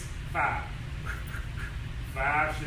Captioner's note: takes breath